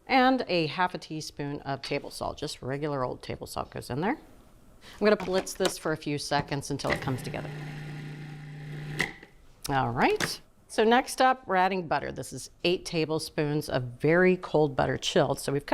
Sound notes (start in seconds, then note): 8.4 food processor whirring